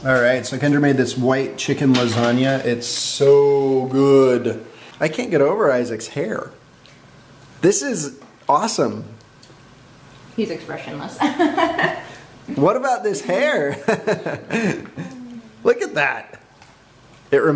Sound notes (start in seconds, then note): 11.2 laughs; 13.6 laughs